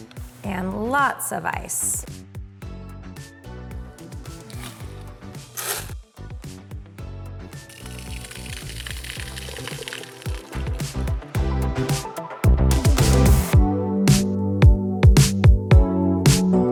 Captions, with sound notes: And lots of ice. (upbeat music) (drink slopping) (upbeat music continues)